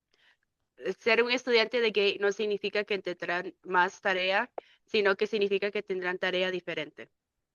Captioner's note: speaking in Spanish